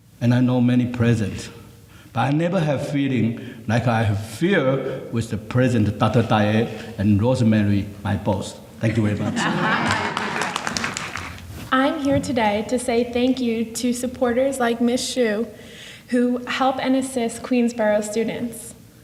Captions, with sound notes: and I know many president. But I never have feeling like I have here with the president, Dr. Diane, and Rosemary, my boss. Thank you very much. (scattered applause) - I'm here today to say thank you to supporters, like Ms. Shu, who help and assist Queensborough students.